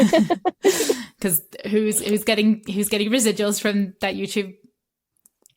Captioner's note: laughter